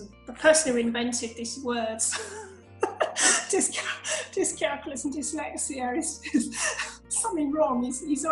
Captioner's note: laughs